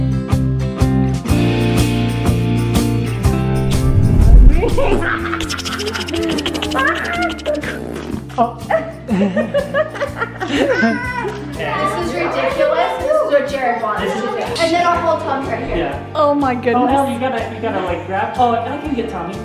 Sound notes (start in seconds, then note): 5.4 ticking noises; 9.4 laughing